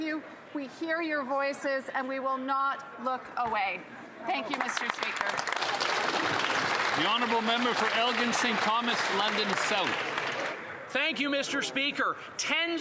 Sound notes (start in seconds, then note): 9.6 some Applause